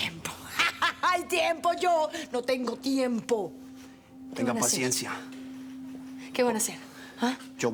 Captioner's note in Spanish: Carcajada